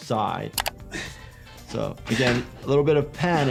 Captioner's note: IShowSpeed panting